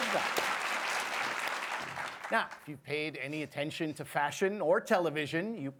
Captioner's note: applause